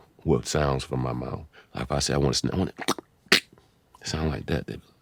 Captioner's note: beat boxing